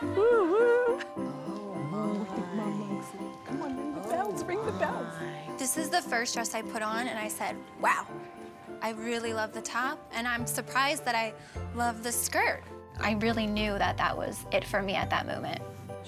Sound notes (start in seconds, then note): 1.3 mumbling